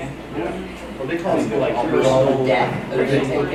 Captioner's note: chattering